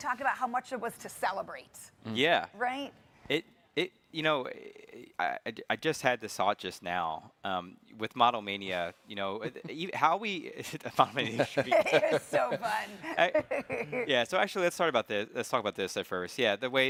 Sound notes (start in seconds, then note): 11.2 chuckles